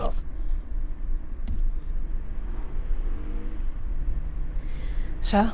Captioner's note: car engine revving